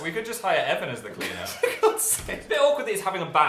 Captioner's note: laughing